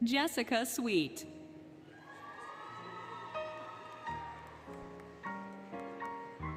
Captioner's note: applause, Cheering, Music